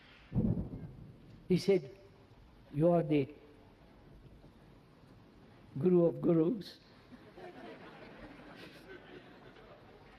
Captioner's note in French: rires